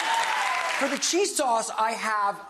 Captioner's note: audience clapping